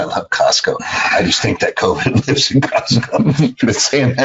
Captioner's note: laughs